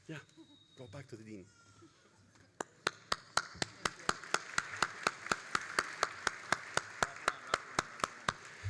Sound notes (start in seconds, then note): 2.6 all applauding